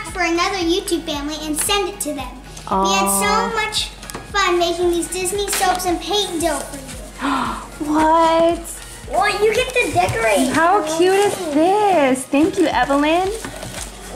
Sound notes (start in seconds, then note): 7.2 gasps